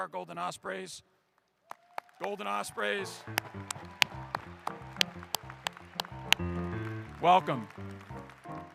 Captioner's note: applause